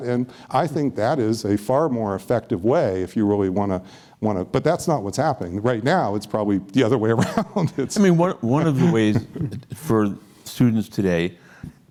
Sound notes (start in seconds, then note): 8.6 laughs